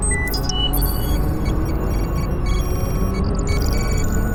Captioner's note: system beeping